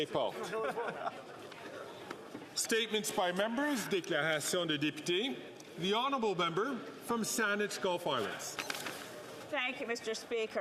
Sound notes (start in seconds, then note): 3.6 speaking French; 7.7 speaking French